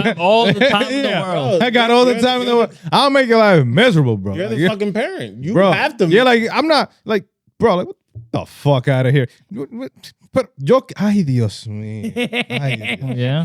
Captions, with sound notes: I have all the time in the world. I got all the time in the world. I'll make you a lot of measurable, bro. You're the fucking parent, you have to. I'm not, bro, what the fuck outta here? (Speaking In Foreign Language)